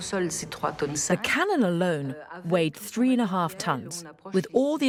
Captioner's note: voiceover